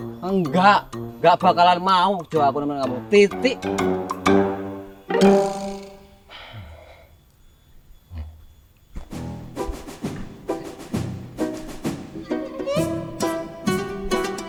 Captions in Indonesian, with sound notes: Enggak! Gak bakalan mau aku nemenin kamu. TITIK! [Kelik mengambil nafas berat] [Musik lucu mengalun pelan]